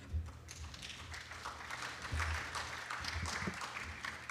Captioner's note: applause